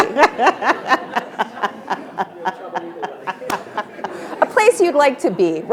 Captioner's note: attendees laughing